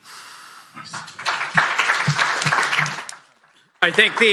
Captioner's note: applause